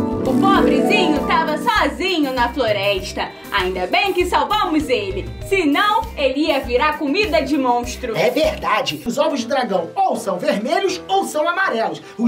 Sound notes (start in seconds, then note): none